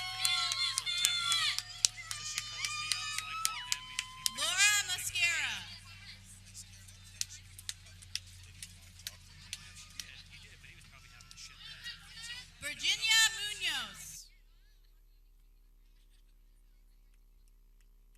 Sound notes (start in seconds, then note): 6.1 people clapping